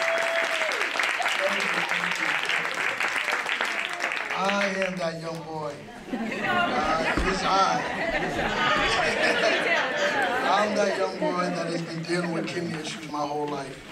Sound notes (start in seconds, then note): 7.7 laugh